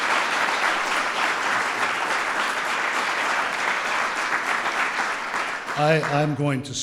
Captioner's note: applause